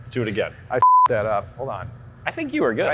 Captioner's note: beep